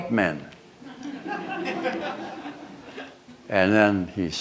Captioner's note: laughter